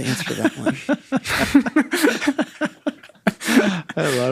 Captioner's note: both laughing